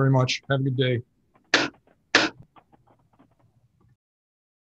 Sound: gavel clacks

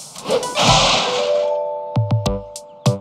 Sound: crashes

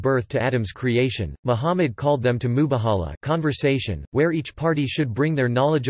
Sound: conversation

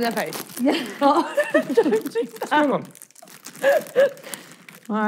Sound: laughing

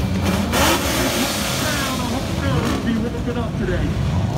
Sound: car engines revving

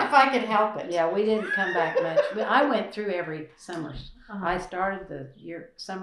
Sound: laughter

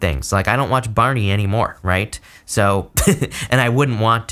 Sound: laughs

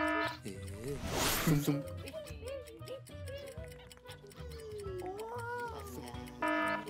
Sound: alarm ringing; upbeat music; gentle buzzing; alarm ringing

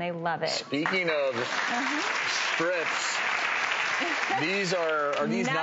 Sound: crowd applauds

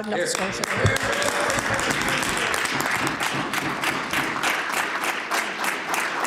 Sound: applause

